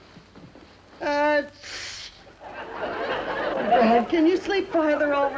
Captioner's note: Joan sneezing